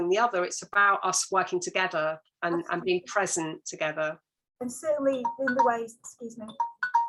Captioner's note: alarm sounds